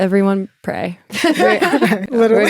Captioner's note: all laughing